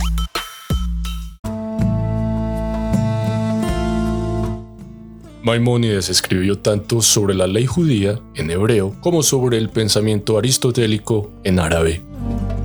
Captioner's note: in Hebrew; in Arabic